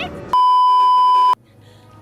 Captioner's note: beeeeeep